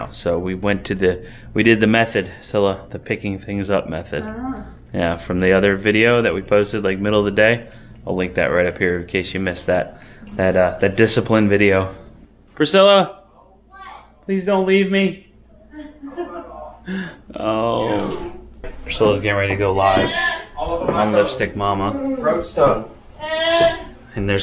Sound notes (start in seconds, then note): 15.7 chuckles; 20.1 yelling; 21.8 groans